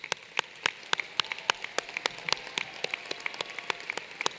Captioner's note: applause